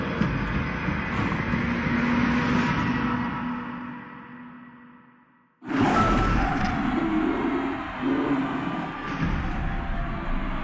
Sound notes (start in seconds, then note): 5.8 snarling